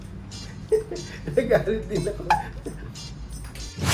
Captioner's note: laugh